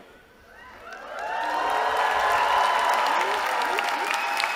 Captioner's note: cheering